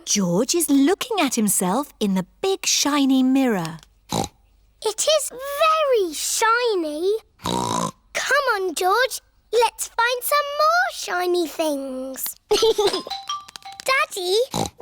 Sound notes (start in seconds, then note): 4.0 snorts; 12.5 giggles; 14.5 snorts